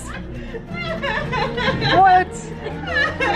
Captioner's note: laughs